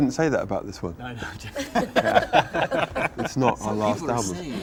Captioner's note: all laugh